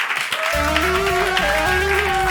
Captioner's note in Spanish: Aplausos